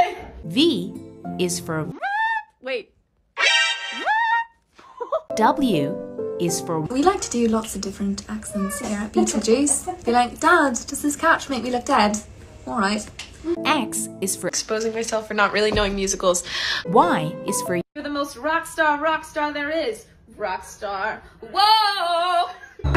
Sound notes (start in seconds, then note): 2.5 alert noise playing; 4.8 laughing; 6.6 British accent